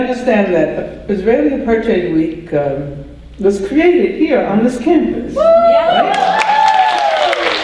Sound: audience cheer and applause

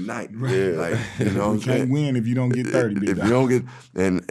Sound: laughing

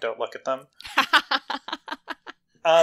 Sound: laughs

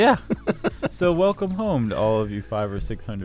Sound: laughing

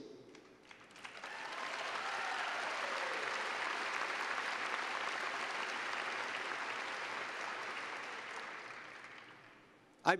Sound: cheers and applause

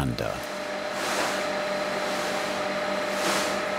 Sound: machine whirring in the background

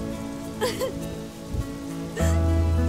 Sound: sobbing

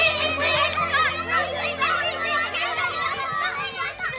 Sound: excited shouting

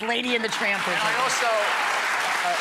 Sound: audience claps

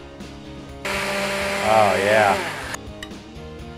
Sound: blender whirring

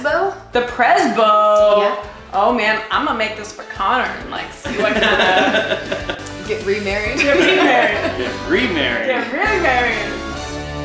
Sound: laughter

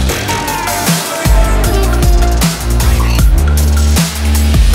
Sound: men shouting

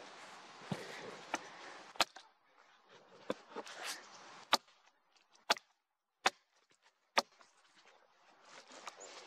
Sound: rustling of leaves and branches, foosteps; axe knocking on wood; leaves rustling

